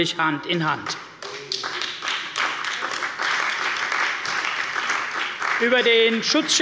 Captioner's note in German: Beifall bei der CDU und dem BÜNDNIS 90/DIE GRÜNEN